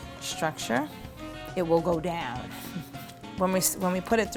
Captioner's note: softly laughs